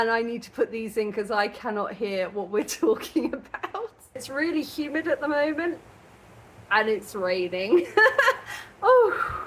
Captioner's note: laughing